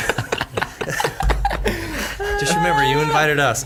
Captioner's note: all laughing